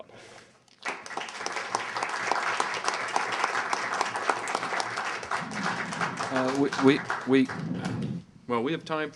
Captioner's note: clapping